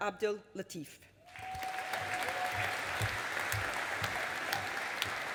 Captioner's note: audience applauding